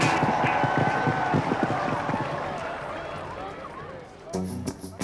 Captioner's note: applause